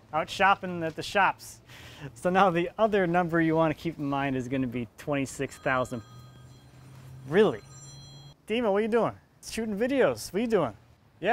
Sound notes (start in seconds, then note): 5.5 phone rings